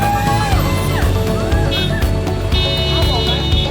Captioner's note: horns honking; crowd cheering